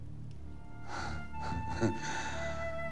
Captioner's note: laughter